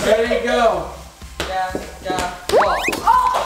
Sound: ball bounces

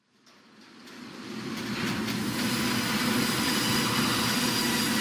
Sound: manufacturing unit hums

